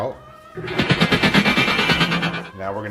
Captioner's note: rapid vibrating